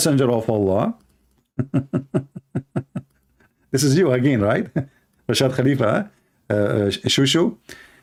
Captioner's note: Ketawa